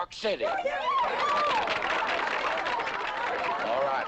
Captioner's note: squeals and applause